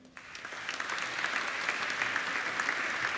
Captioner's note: applauding